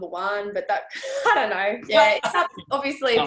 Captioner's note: chuckles